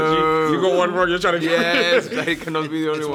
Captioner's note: laughing